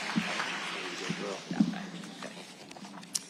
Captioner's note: audience applauding; both speaking quietly